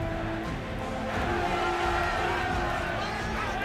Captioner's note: cheering